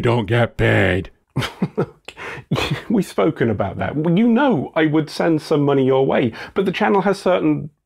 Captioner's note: laugh